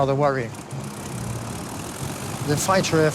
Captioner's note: engine roaring